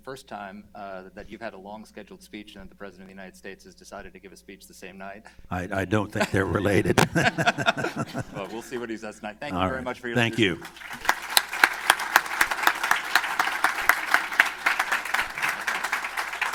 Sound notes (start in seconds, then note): 5.6 laughter; 15.4 applause